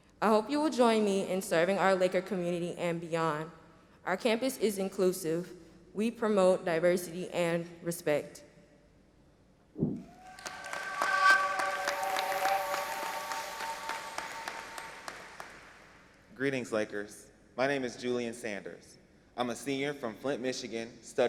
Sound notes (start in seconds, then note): 10.0 audience applauding